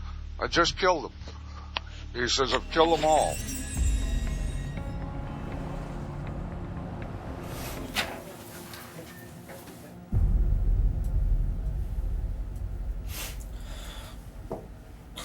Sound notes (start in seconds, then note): 2.2 tense music playing; 13.1 sniffles